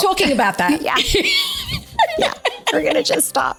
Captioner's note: both laughing